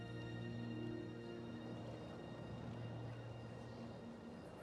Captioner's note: les grillons gazouillent